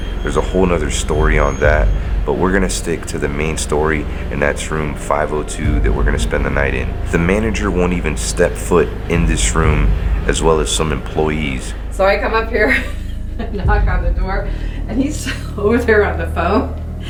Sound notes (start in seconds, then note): 13.2 laughs